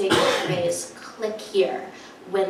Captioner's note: audience coughs